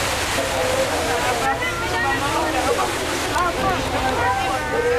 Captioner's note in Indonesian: suara gelombang tsunami; suara kepanikan